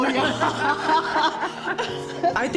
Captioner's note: laughing